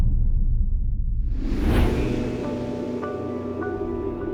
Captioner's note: wind blowing